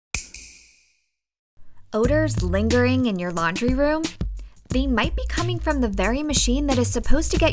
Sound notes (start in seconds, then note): 0.1 snap